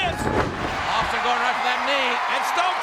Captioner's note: audience cheers